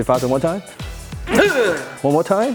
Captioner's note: exhales